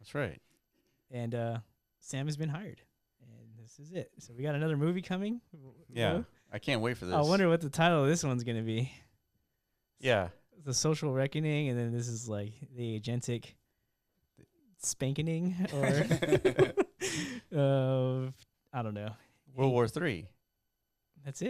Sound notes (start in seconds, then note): 15.6 laughter